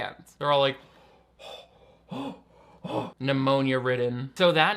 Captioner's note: breathing heavily